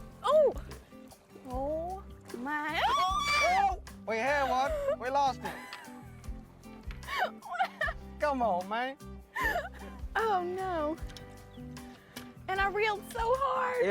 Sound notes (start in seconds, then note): 2.8 screams; 7.1 laughs